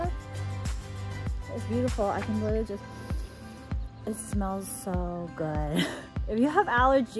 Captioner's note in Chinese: 嗅聞